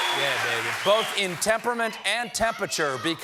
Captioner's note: cheers and applause